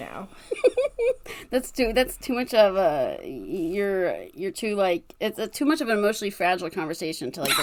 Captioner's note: laughs